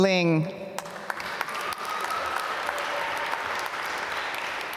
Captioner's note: applause